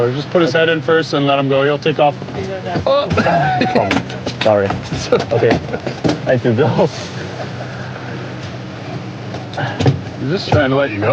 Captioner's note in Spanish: risas